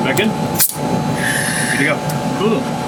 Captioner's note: air hisses